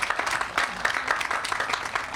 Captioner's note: all applauding